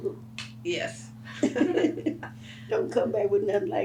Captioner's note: laughs